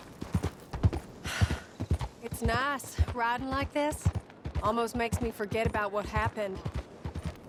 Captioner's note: sighs